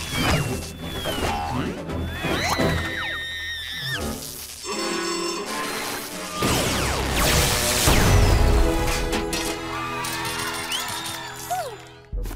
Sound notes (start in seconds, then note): 2.0 screams; 6.8 loud explosion; 9.5 people cheering